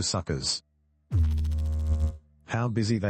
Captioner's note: electrical noise